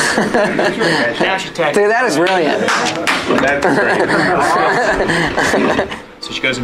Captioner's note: laughter plus awkward applause